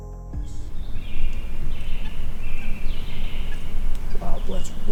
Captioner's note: birds chirping